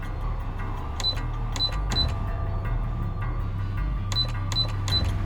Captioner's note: buttons beeping